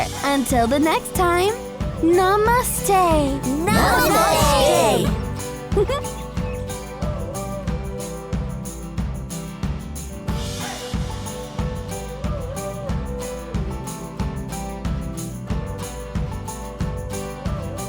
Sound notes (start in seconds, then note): 5.6 laughs; 6.8 cheerful guitar music